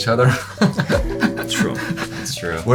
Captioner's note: chuckles